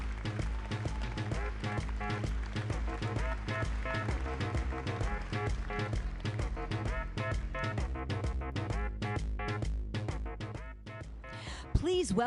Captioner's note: applause